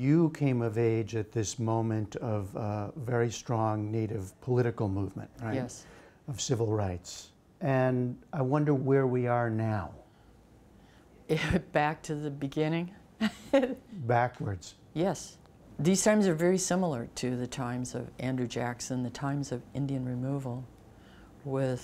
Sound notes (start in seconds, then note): 13.2 laughter